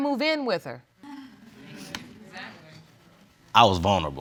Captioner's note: audience murmurs